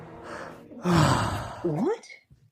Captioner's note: Nate sighs